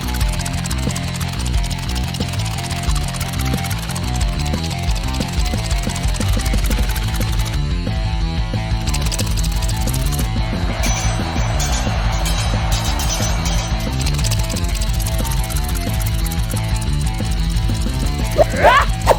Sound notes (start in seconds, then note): 10.8 swords clanging; 11.2 tense music; 18.3 sword clanging; 18.5 Xu Xang shouting